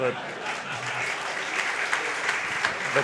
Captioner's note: applause